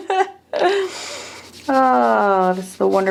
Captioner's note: person laughing